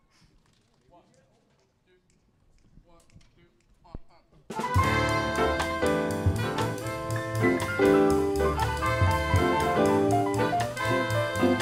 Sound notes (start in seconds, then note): 1.1 performers chattering; 4.4 lively upbeat jazz music